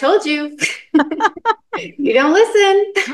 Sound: laughing

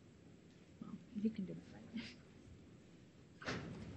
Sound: speaking faintly

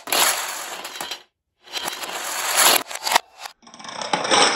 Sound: dominoes falling in reverse; dominoes falling in slow motion

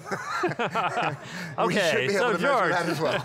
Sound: laughing

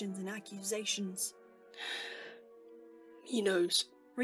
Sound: James inhales

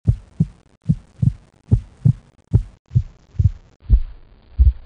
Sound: thumping of heartbeat

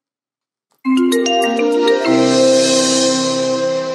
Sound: chimes

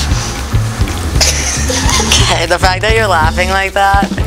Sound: laughter

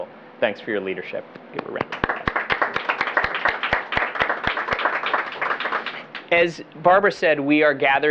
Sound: applause

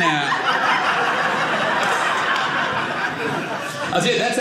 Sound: audience laughing

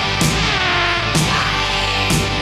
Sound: fly buzzes

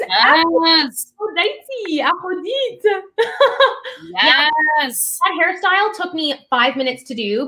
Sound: french accent

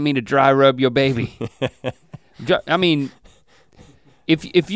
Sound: chuckles

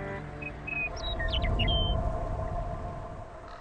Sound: birds calling

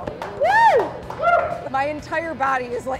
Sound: applause

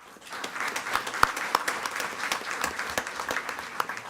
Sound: attendees clapping

